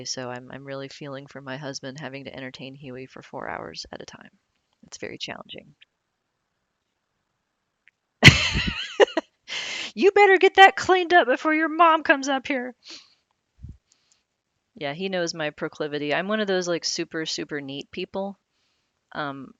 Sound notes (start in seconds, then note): 8.3 laughs